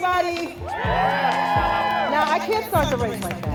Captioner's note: crowd cheers